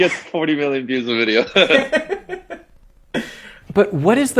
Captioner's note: both laughing